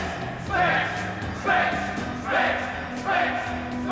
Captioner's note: chanting grows louder